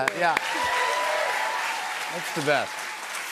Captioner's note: cheers and applause